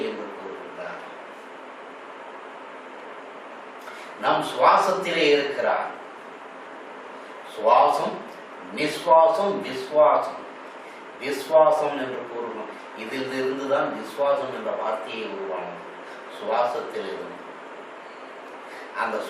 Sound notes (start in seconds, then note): 13.4 breath